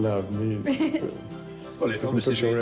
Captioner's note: she giggles